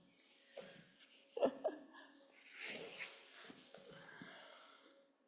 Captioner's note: chuckles